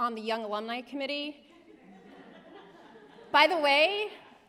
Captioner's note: laughter